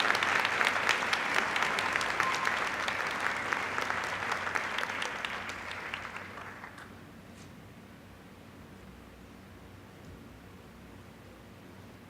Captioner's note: applause